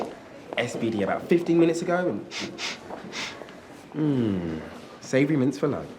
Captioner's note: sniffs